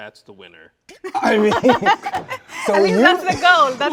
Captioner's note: both laughing